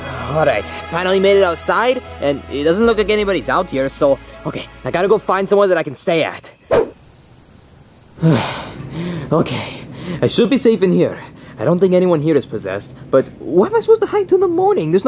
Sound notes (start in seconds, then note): 6.7 air whooshes; 6.8 crickets chirping